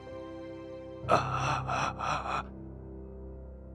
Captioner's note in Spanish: Stamering